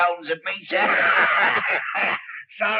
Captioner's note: both cackling